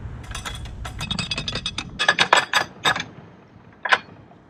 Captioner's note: canal lock winding sound